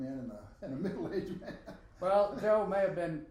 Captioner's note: laughing